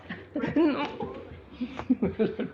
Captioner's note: laughs